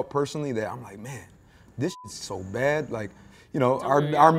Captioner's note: beep